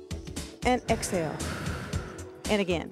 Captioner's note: gentle music; breath hisses